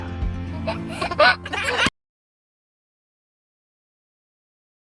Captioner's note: giggling